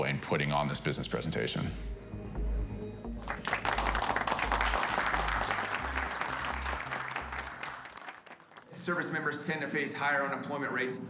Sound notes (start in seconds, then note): 3.2 applause